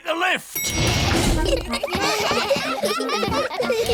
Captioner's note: elevator bell dings; all giggling